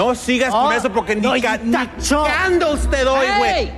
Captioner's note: speaking non-english